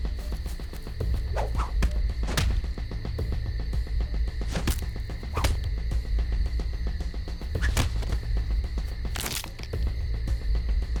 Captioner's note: fight sounds